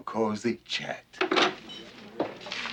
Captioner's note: dishes clanking; chatter